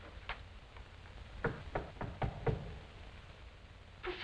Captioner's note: knock on door